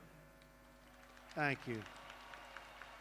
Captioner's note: applause